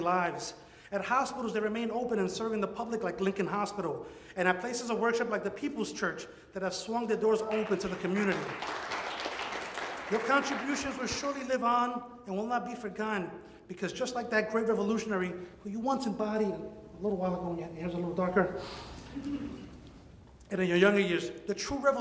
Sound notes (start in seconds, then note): 11.2 audience applauds